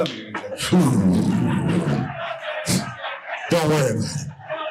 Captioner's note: imitates oral sex sounds